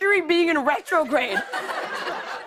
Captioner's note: laughter